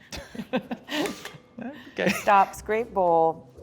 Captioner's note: laugther